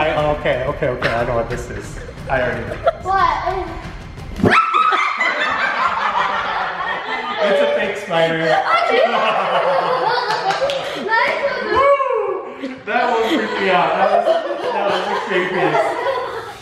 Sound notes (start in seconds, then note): 4.4 screaming; 4.4 laughing; 8.4 uncontrollable laughing